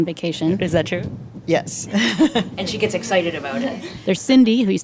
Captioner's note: laughs